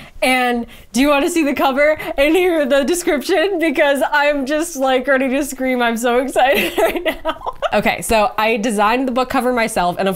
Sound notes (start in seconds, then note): 6.3 laughs